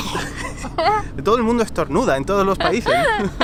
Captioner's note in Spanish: Estornudo; risas